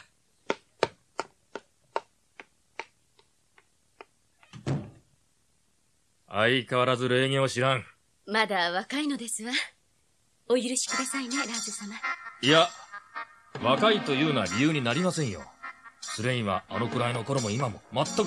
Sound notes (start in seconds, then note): 0.3 SFX: footsteps receding; 4.5 SFX: door shutting